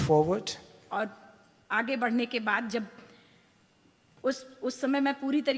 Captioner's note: speaks foreign language